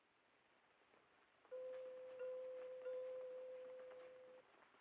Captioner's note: bell Chiming